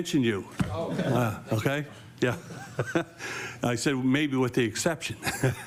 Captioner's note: laughter